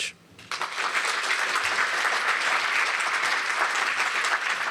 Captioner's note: applause